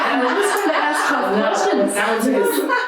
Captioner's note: audience laughing; speaker drowned by audience laughing